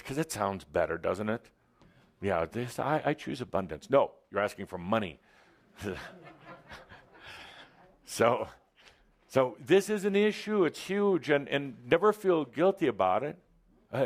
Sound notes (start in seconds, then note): 5.8 some laughter